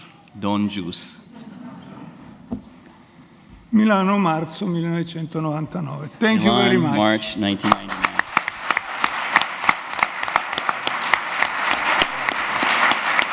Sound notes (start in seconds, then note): 0.0 speaks in Italian; 7.6 audience applause